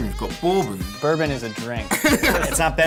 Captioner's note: other man laughs